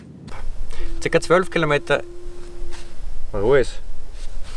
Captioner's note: animal noise